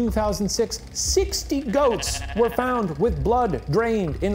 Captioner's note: goat bleating